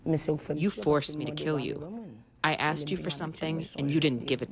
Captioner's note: through translator